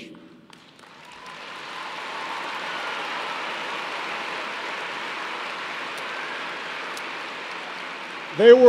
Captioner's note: applause